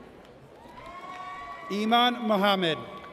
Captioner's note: audience cheers